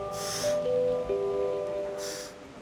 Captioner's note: exhales